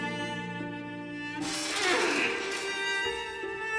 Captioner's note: metal creaks